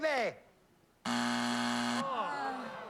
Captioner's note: buzzer